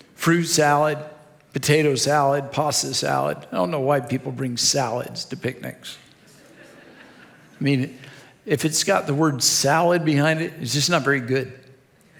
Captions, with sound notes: fruit salad, potato salad, pasta salad. I don't know why people bring salads to picnics. (audience laughs) I mean, if it's got the word salad behind it, it's just not very good.